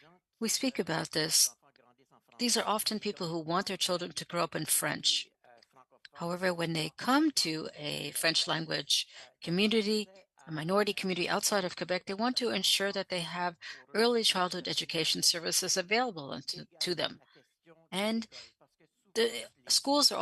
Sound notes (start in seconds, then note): 7.4 speaking French